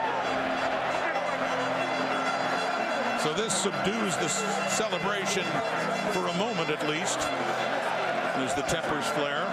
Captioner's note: crowd Noise